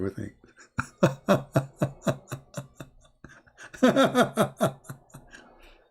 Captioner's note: Ketawa